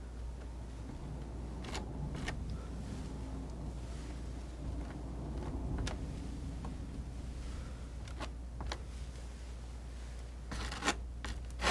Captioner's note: scratching